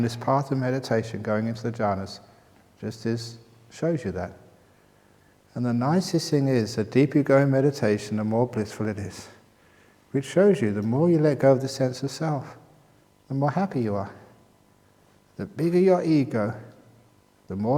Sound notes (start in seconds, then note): none